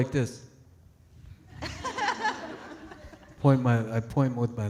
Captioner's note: audience laughing